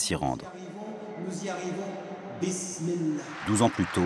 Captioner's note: applause